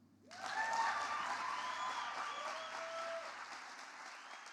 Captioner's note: audience applause